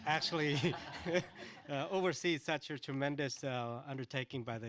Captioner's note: laughter